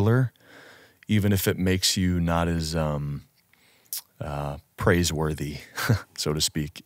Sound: chuckles

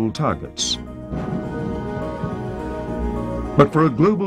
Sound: explosion blasts

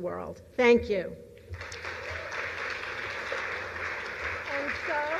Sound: applause

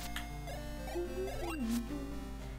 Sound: humming

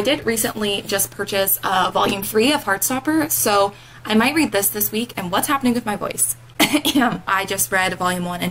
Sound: ahem ahem

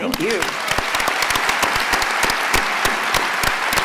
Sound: applause

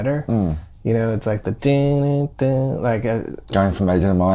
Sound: humming

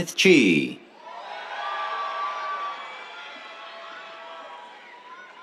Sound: cheers

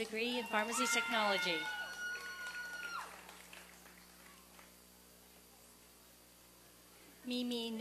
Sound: applause and cheering

